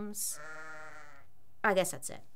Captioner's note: lamb bleating